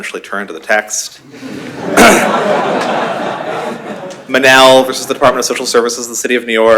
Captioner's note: laughter